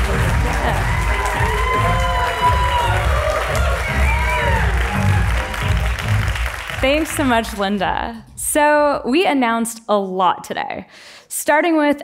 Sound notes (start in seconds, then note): 0.0 applause